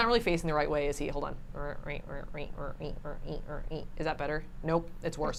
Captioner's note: hums